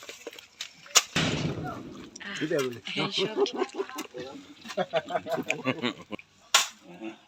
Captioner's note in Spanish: Pistola disparo